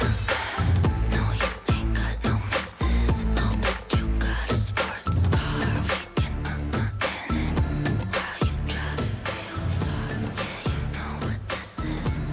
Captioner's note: cheering and applause